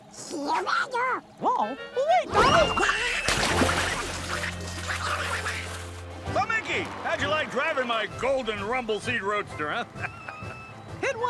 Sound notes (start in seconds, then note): 3.1 splash; 4.7 Donald shouting and splashing; 9.8 chuckles